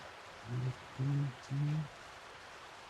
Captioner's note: Meriwether humming